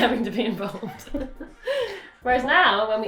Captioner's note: laughter